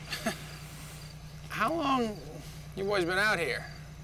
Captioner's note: chuckles